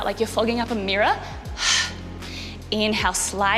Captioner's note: breathing out sharply